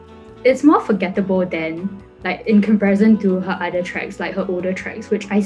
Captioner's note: none